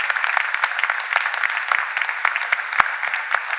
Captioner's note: cheers and applause